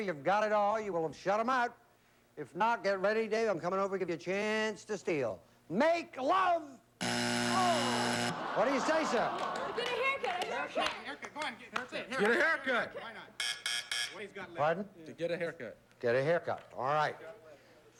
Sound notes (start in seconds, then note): 7.0 buzzer; 12.7 buzz buzz buzz